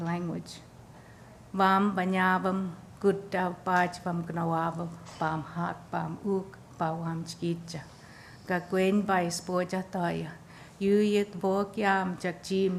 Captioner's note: foreign. sp